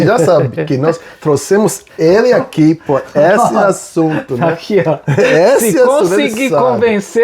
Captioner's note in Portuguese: risadas